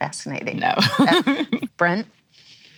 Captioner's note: laughs